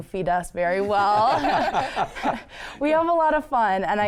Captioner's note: group laughs